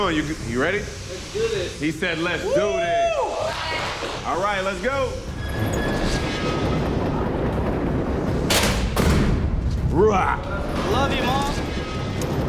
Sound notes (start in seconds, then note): 2.4 cheers; 6.2 suspenseful music; 8.4 clank